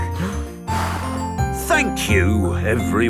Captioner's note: blows